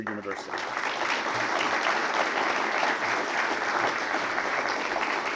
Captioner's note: applause